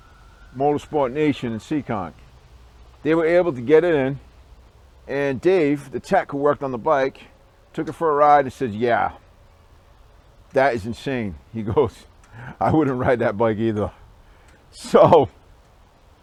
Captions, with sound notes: Motorsport Nation in Seekonk they were able to get it in and Dave, the tech who worked on the bike took it for a ride and said ya that is insane he goes (laughingly) I wouldn't ride that bike either so